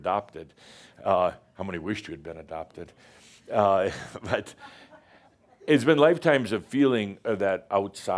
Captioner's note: a few chuckles